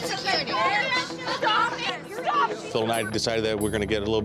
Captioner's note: yelling